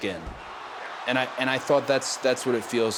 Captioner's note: audience cheering